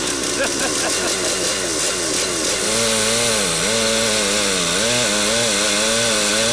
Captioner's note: chainsaw humming; laughing